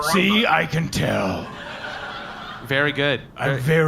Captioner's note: exasperated; flatly